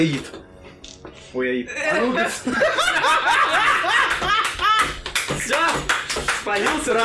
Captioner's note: entire table laughs